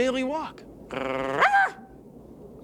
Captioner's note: barks